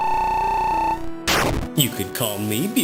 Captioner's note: game beeping; game buzzes